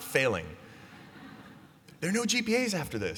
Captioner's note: laughter